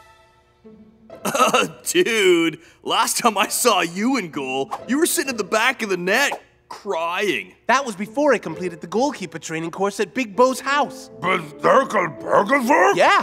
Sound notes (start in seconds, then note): 1.2 chuckles